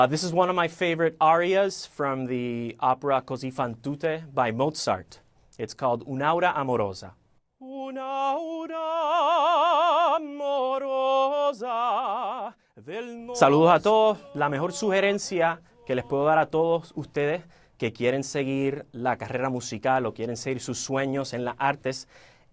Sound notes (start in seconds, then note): 9.1 singing; 10.9 speaking Spanish